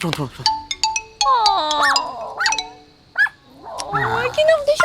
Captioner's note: barking